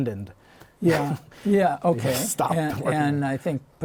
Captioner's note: laughter